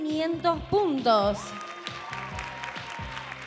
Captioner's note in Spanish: Aplausos